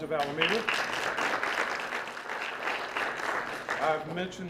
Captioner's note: applause